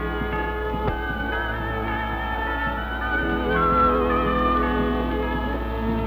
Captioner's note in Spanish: Bells